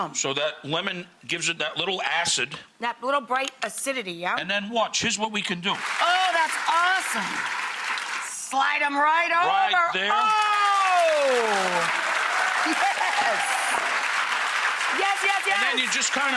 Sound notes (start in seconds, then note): 5.7 applause; 10.1 applause